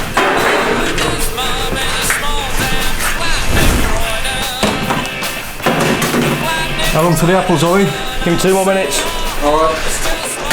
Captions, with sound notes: [ BUSY KITCHEN NOISE WITH RADIO ] How long for the apples Olly? Gimme two more minutes. All right.